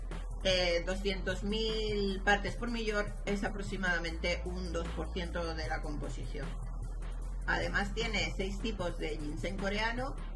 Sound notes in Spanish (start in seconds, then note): none